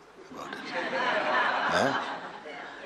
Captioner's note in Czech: smích